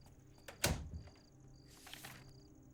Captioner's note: door closes